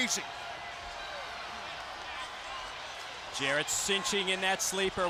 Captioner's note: crowd cheering